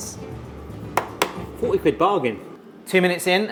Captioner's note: hand tapping